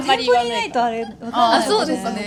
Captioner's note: laughs